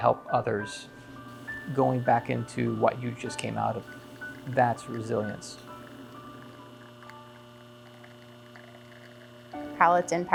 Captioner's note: coffee gurgling